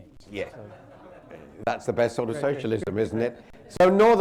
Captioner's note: laughter